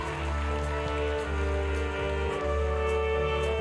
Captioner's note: cheering